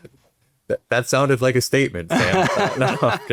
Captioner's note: laughs